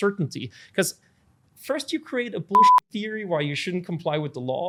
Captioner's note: beep